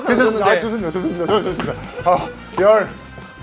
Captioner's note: tennis balls caught